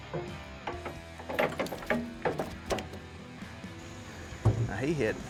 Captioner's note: boat clanging